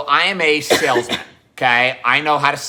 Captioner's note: coughs